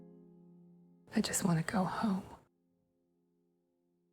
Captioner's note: voiceover